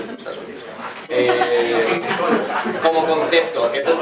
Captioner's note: laughs and comments